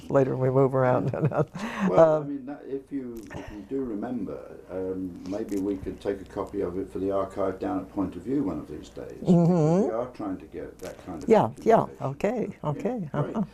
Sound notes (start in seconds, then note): 1.6 laugh